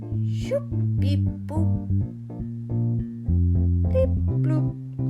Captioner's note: makes robot noises